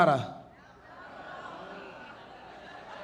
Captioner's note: crowd; audience laughing